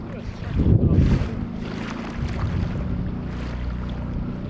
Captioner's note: murmurs